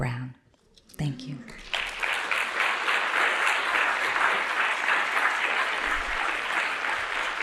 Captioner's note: applause